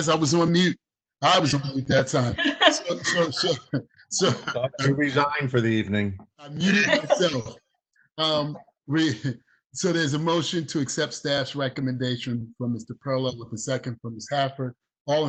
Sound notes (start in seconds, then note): 2.9 chuckling